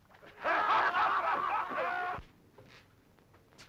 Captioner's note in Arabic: الرجال يضحكون